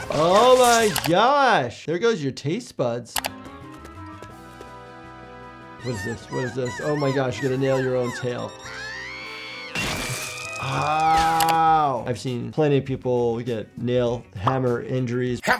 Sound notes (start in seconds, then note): 0.0 Sniffles yelling; 3.2 mouse clicking; 4.2 gentle ascending music; 8.6 Sniffles screaming; 9.7 tail popping